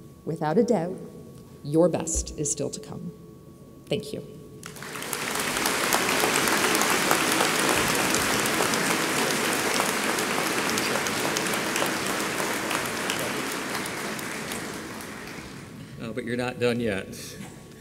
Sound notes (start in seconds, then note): 4.8 audience applauds